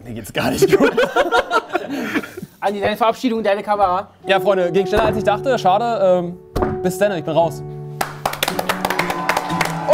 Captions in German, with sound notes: Mir geht's gar nicht gut. Andy, deine Verabschiedung in deine Kamera. Ja, Freunde, ging schneller als ich dachte, schade. Bis denn, ich bin raus. (Jubel, Applaus)